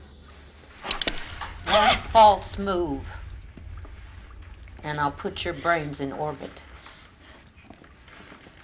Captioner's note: gun hammer click